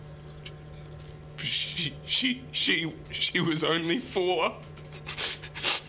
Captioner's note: voice breaking, Stuttering